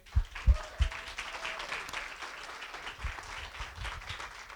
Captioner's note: applause